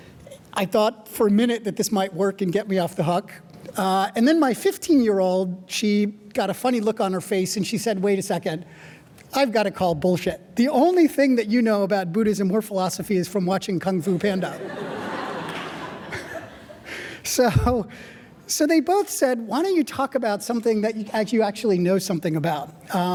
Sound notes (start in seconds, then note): 14.1 audience laughing; 14.6 laughing